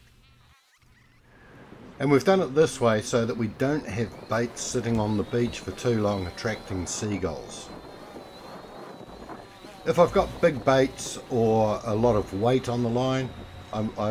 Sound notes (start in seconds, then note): 1.3 wind howling; 8.3 drone motors running